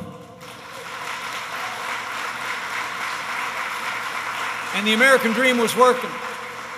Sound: applause

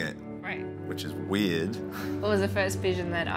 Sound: chuckles

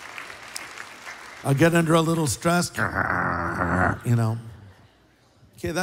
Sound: applause; growling

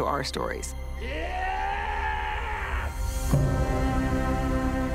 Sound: yells

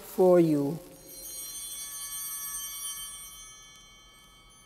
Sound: bell ringing

